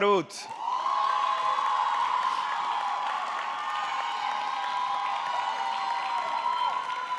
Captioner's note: audience clapping; audience cheering